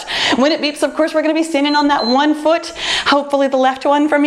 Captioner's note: timer beeps